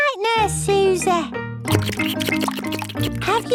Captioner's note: slurping